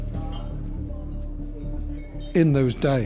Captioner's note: glass clinking